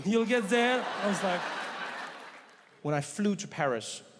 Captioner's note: audience laughing